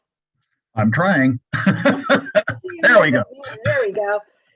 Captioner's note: laughs